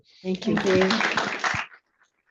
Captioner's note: audience applauding